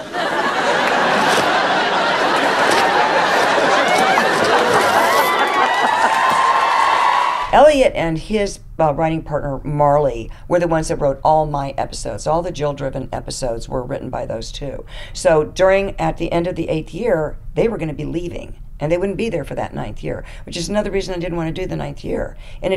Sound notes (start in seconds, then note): 0.0 fabric ripping; 0.0 audience laughing; 5.2 audience cheering